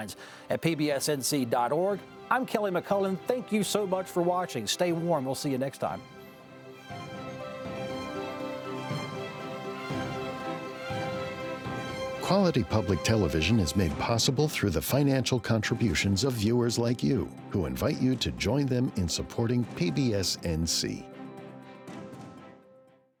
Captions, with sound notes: Email your thoughts to statelines@pbsnc.org. I'm Kelly McCullen. Thank you so much for watching. Stay warm. We'll see you next time. [upbeat music] - [Voiceover] Quality public television is made possible through the financial contributions of viewers like you who invite you to join them in supporting PBS NC.